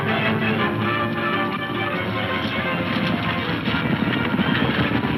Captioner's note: hooves thundering